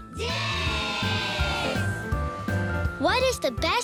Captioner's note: cheering